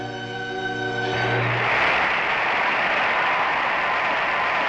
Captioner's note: crowd Cheering